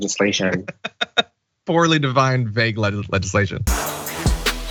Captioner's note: laugh